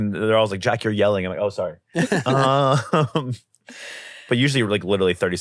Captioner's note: laughs